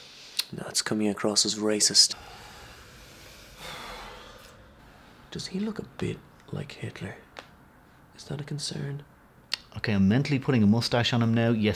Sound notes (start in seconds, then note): 2.2 sigh